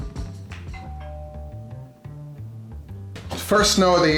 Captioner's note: doorbell chimes